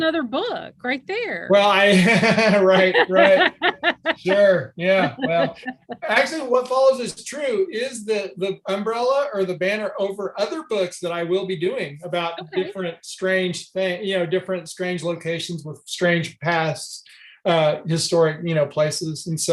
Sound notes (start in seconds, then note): 1.6 laughter